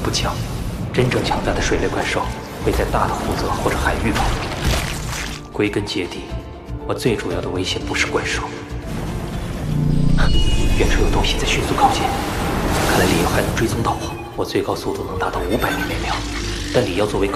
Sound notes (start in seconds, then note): 11.2 something is approaching at a fast speed